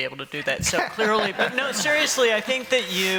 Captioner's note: laughter